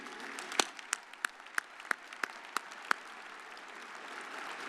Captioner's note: audience applauding